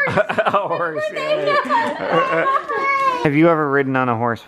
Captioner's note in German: lacht